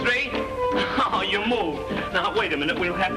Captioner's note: laughs